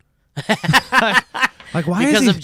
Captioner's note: laughs